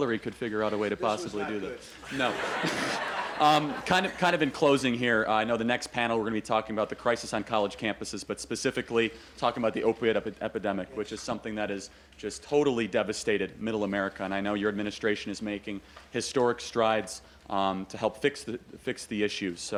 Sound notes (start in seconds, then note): 2.0 laughter